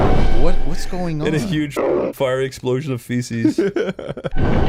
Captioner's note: laughs